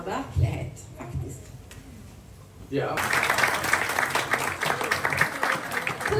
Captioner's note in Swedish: applåder